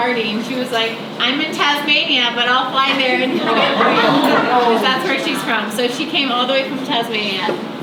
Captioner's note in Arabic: الحشد آه